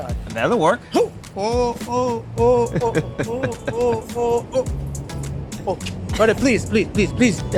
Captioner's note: chuckling